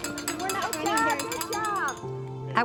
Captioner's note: bell ringing